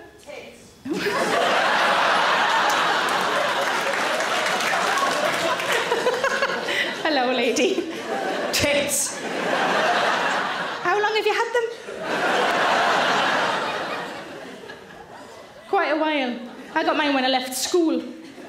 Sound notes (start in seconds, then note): 1.5 audience laughs; 2.2 audience claps; 4.9 Sarah laughs; 9.6 audience laughs; 12.1 audience laughs